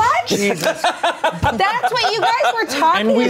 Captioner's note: everyone laughs